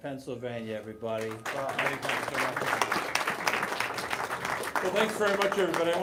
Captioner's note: applause